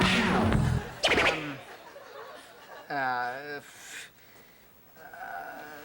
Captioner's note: scoffs